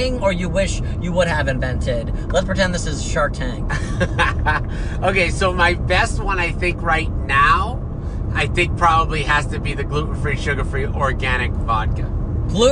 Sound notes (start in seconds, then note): 3.7 laughs